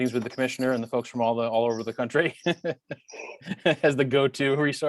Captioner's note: laughs